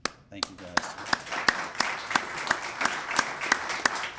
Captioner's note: applause